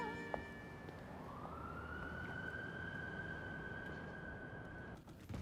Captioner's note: sirens wailing